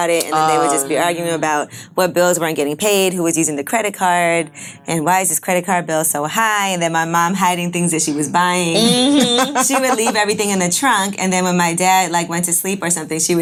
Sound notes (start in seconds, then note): 8.7 laughing